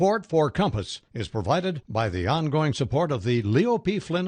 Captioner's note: voiceover